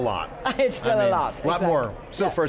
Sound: laughs

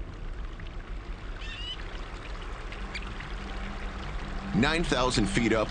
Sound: river splashing

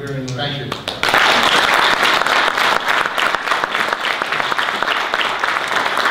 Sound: audience applause

